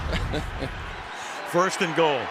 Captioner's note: laughter